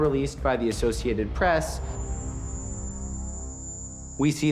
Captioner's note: high-pitched chirping